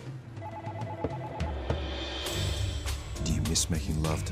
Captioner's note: phones ringing